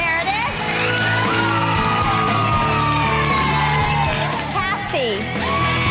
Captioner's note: group cheers